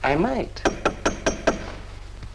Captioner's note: door Knocker